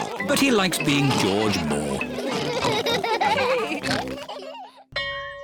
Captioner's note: all laugh